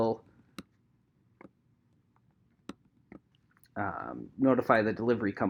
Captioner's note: keyboard clicking